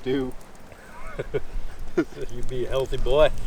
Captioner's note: laughs